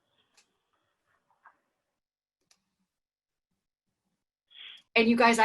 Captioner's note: silence